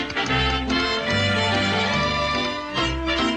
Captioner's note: bright music continues; feet tapping